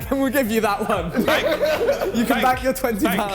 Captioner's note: men laughing